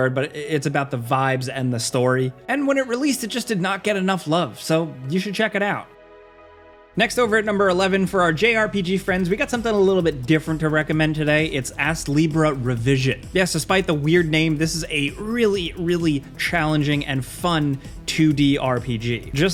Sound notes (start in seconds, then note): none